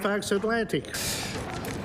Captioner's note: applause